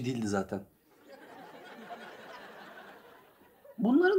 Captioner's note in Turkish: Gülme efekti